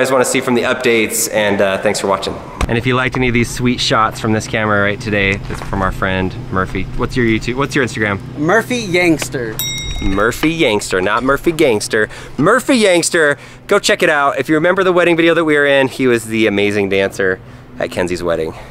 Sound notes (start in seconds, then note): 9.6 ding